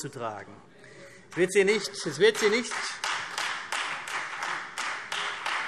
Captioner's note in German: Beifall CDU und Freie Demokraten